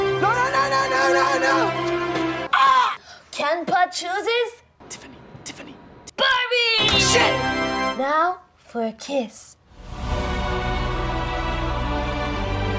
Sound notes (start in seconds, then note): 2.4 screaming